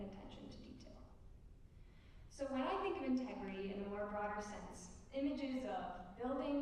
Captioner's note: none